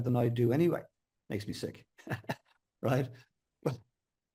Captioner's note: laughs